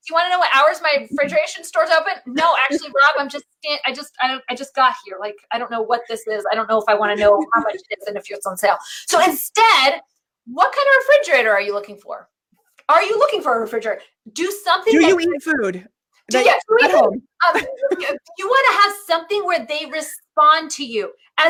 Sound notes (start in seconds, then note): 1.1 laughs; 9.0 laughing; 17.4 laughs